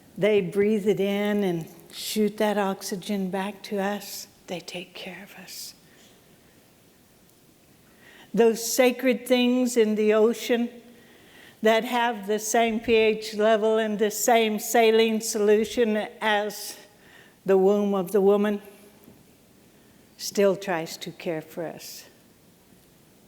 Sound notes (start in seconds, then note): none